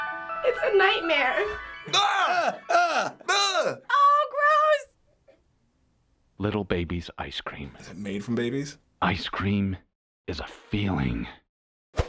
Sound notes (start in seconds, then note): 1.8 both scream